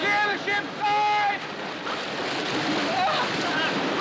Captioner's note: gasping